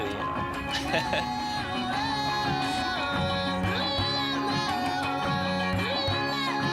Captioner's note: laughs